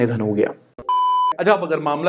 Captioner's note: beep